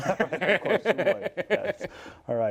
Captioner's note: laughter